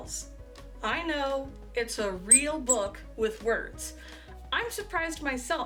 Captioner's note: squeak squeak